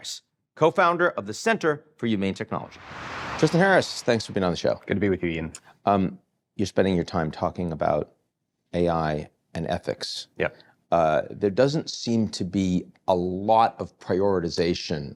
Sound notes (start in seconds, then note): 2.5 air whooshing